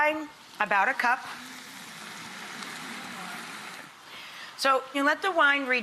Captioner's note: wine pouring